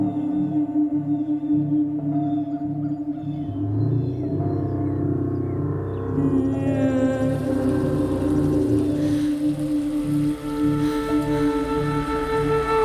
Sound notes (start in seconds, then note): 6.6 water splashing